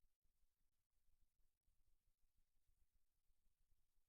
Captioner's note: none